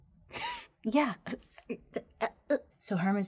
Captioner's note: laughing